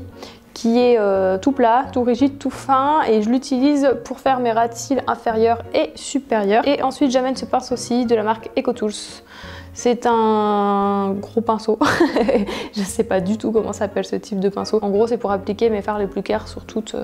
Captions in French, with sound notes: qui est tout plat, tout rigide, tout fin. Je l'utilise pour faire mes ras de cils inférieurs et supérieurs. Et ensuite j'emmène ce pinceau ci de la marque Ecotools. C'est un... gros pinceau ! ( rires ) Je ne sais pas du tout comment s'appelle ce type de pinceau. En gros c'est pour appliquer mes fards les plus claires sur toute